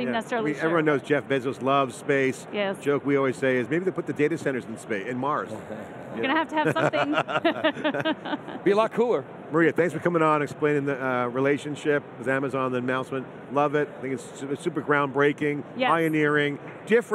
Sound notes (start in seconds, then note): 8.1 laughing